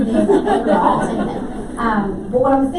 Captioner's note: laughter